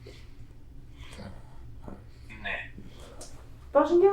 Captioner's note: achmet – artificial male voice